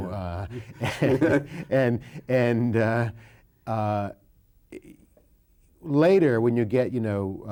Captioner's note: both laughing